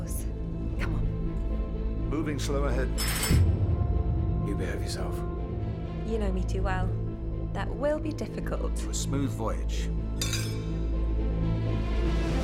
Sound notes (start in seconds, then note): 10.2 glasses clink; 10.4 suspenseful instrumental music playing